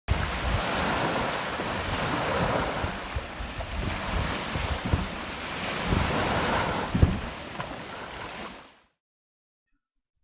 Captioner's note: sound of waves splashing